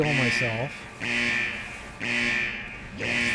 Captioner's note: buzzing